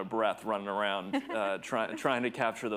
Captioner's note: chuckles